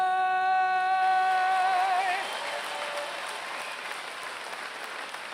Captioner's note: applause